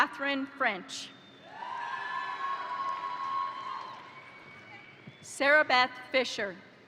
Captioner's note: crowd cheering; crowd applauding